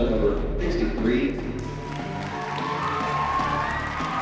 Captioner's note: applause, cheering